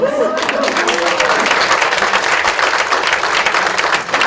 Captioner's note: audience claps